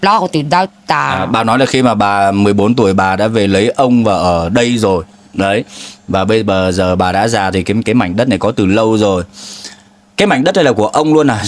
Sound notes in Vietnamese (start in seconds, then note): 5.7 khịt mũi